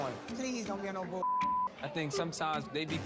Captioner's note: beep